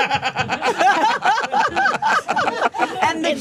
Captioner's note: all laughing